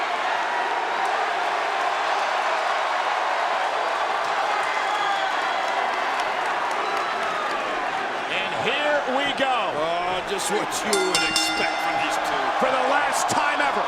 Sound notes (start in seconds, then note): 1.1 crowd cheering louder; 10.7 bell ringing